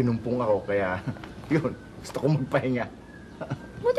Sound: chuckles

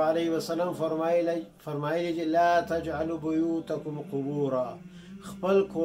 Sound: Arabic

